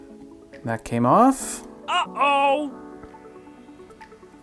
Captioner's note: silly voice: ahh ohhh!